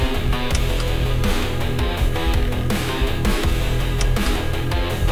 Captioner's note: uptempo rock music; heartbeat thumping; button clicks; button clicks; heartbeat thumping; uptempo rock music